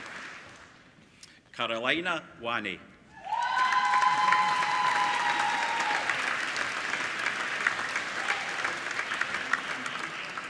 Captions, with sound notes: Carolina Wani (APPLAUDING)